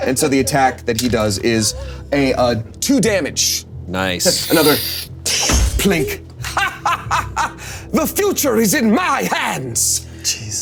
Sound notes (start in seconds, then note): 6.4 Damien laughing evilly